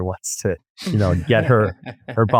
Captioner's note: laughs